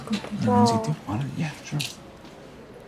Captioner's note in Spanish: Hablan en voz baja